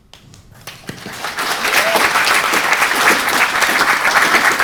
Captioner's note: audience applauding